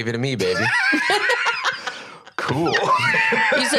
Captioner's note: laugh